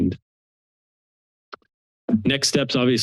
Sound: silence

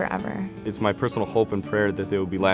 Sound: voiceover

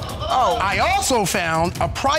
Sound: audience exclaiming

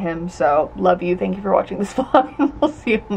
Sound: laughs

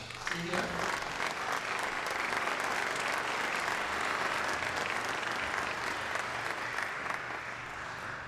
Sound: applause

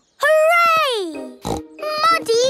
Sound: snorting

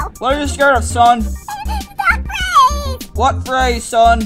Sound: whimpers

